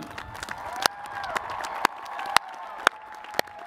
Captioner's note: cheers and applause